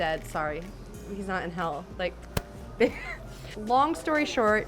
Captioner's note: laughs